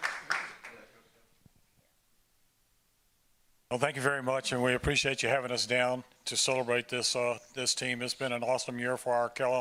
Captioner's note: applause